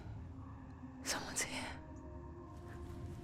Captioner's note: hushed